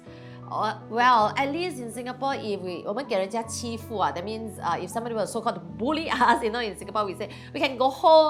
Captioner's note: Mandarin